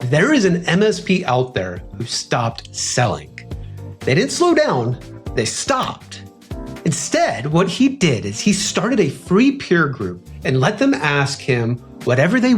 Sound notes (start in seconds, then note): 5.8 pop